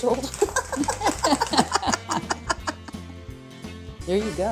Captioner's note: both laughing